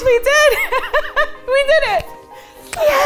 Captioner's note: laughing